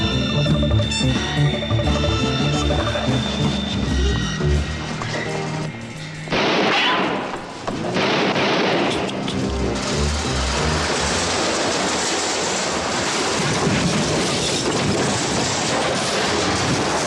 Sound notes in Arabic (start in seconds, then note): 7.8 إطلاق نار; 10.8 خشخشة حاوية القمامة; 13.9 تحطم حاوية القمامة